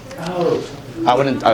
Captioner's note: tch